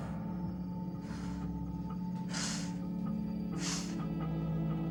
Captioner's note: Jill exhaling